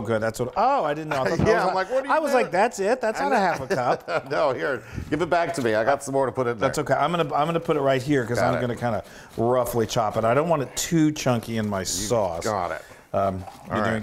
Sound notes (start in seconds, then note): 3.1 laugh